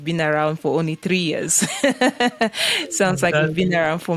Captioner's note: laughing